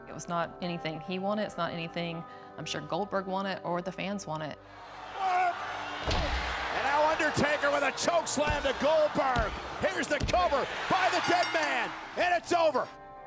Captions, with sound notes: It was not anything he wanted, it's not anything I'm sure Goldberg wanted or the fans wanted. (Goldberg groans) And now Undertaker with a chokeslam to Goldberg, here's the cover by the Dead Man and it's over.